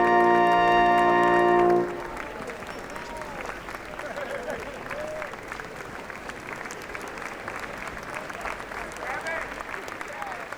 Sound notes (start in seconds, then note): 2.1 applauding